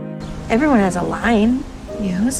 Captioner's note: voiceover